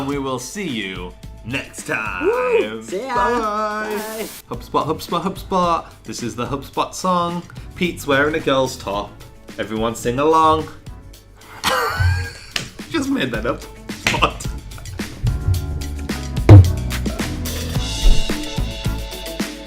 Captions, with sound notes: - And we will see you next time. - See yah. - Bye. HubSpot, HubSpot, HubSpot. This is the HubSpot song. Pete's wearin' a girl's top, everyone sing along. (laughing) Just made that up. (upbeat music)